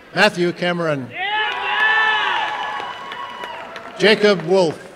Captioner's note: applause and cheering